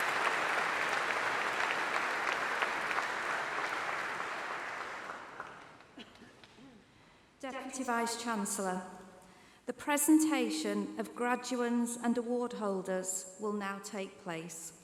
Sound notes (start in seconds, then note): 6.2 applause